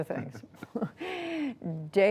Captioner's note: laughter